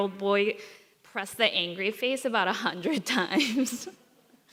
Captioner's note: chuckles